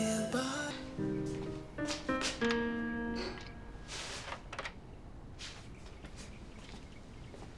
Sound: bright music; latch clicking

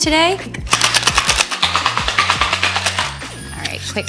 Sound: tins shaking

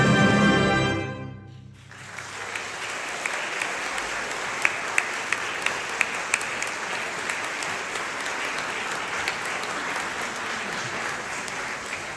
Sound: applause

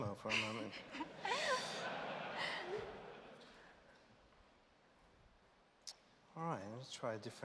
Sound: laughter

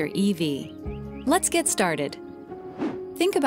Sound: air whooshing

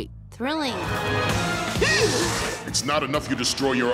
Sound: gasps

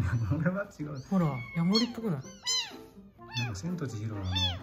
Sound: laughs

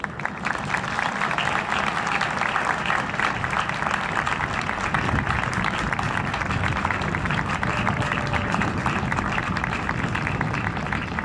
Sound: applause

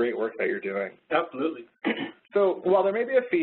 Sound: voiceover

